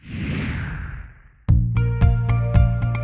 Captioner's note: swoosh; upbeat music